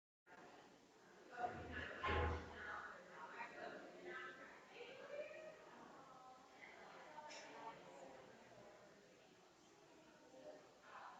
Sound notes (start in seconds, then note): 1.6 people chattering